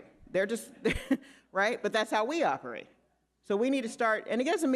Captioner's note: laughs